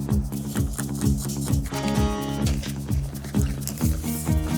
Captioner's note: spray spritzing